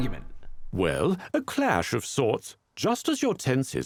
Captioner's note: voiceover